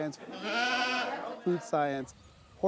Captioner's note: sheep bleating